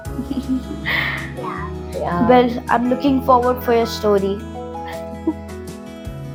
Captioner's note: laugh